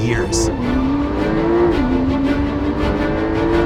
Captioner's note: engine revving; dramatic music continues